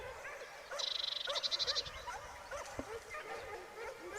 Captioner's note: dogs barking